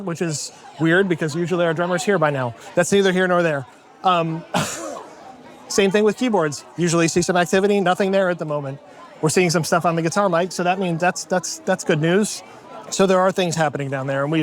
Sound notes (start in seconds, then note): 4.5 laughs